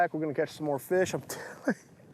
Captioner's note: laughs